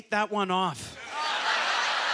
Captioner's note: audience laughter